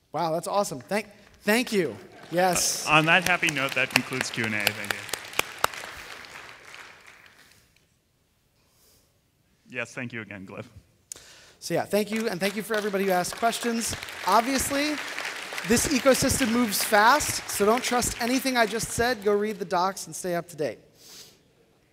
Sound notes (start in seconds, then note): 5.9 applause